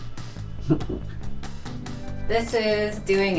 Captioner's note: chuckles